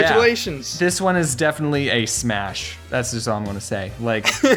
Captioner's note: laughs